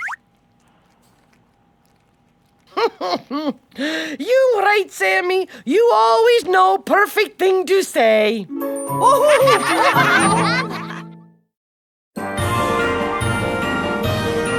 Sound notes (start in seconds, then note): 2.6 chuckles; 9.0 laughing